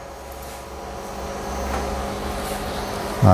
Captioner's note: printer machine noise